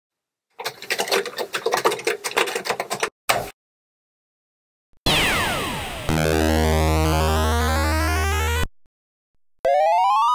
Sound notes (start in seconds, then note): 0.6 typing; 5.1 retro game sounds